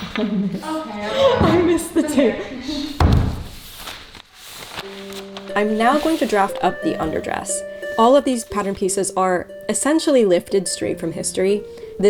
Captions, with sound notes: Ah! I missed the table. (roll of paper thumping) (paper crinkling) I'm now going to draft up the underdress. All of these pattern pieces are essentially lifted straight from history.